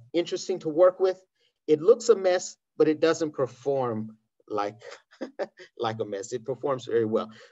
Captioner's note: laughs